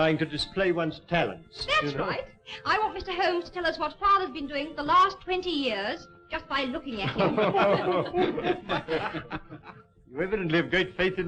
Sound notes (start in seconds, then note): 7.0 all laughing